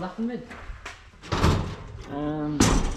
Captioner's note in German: krach